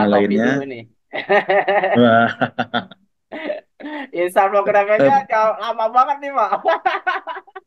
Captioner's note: laughs